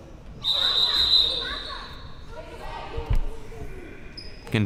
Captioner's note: whistle chirping